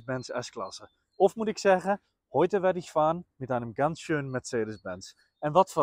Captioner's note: speaking in German